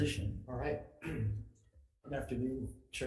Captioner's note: clears throat